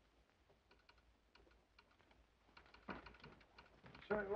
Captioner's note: telegraph clicks